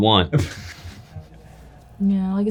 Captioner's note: laughing